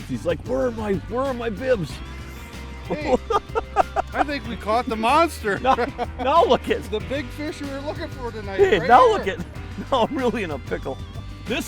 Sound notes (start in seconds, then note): 5.6 laughs